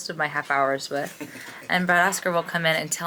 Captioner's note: chuckles